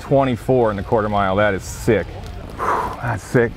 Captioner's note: exhales deeply